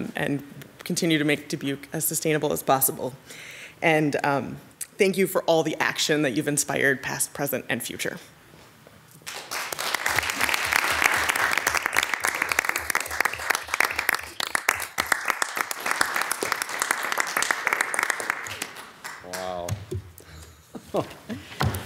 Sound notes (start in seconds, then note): 9.1 audience applauding